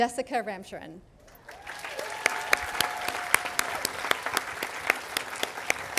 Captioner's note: audience applauding